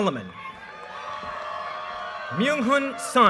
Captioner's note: audience cheers and applause